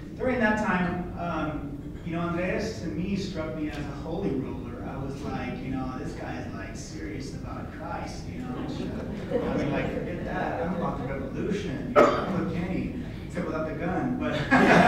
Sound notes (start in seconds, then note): 8.4 laughter